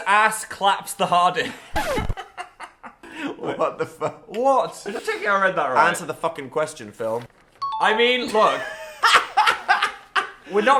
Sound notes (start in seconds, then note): 1.4 both laughing; 8.3 laughing